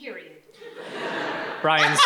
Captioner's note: audience laughs